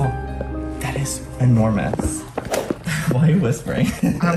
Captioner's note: giggling